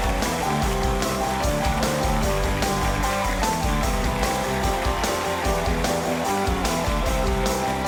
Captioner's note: cheers and applause